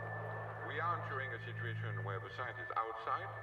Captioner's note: voiceover